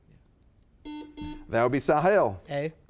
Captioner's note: buzzer beeping